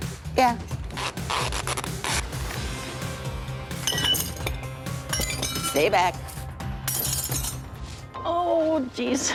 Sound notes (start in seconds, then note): 0.9 tape pulling; 3.8 glass clattering